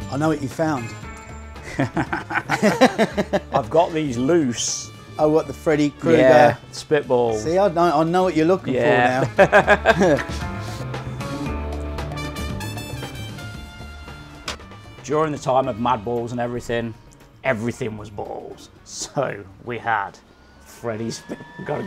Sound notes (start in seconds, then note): 1.6 laugh